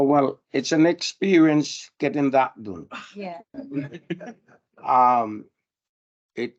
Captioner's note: panel and audience laugh